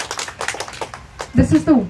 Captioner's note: applause